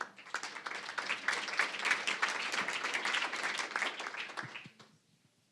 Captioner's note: applause